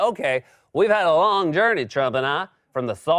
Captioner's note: southern accent